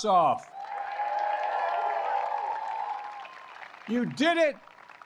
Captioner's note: applause